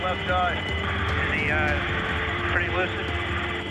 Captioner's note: man Over Radio